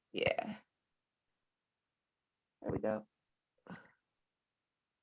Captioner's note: none